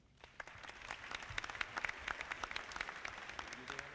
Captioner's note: audience clapping